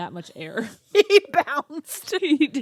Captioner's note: laughs